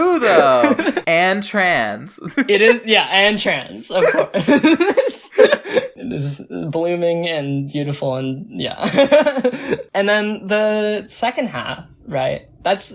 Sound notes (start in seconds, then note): 0.0 both laugh; 3.9 laughs; 4.0 both laugh; 9.4 laughs